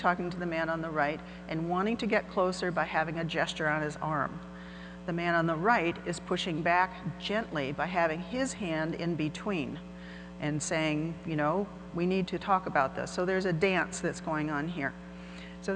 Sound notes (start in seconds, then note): none